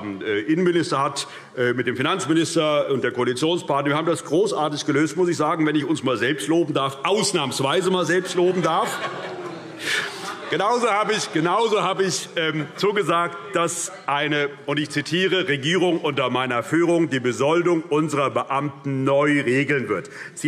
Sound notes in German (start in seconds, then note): 9.3 Heiterkeit - Zurufe: Oh!